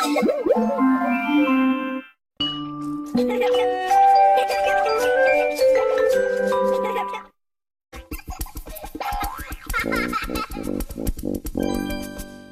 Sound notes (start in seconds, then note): 2.8 kid laughing as wondrous music plays; 8.0 kid laughs